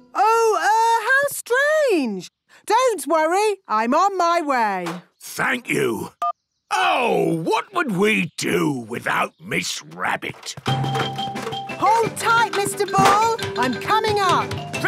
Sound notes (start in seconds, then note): none